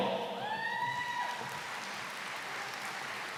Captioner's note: applause